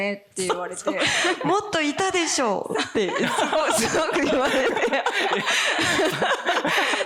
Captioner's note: laughs